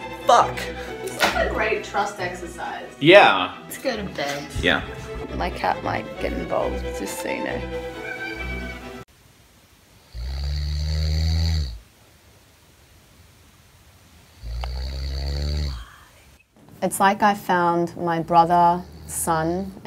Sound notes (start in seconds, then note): 7.9 meow; 10.0 snoring